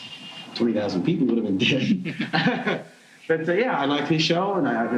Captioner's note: laughing